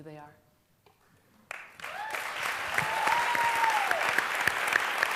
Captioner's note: applause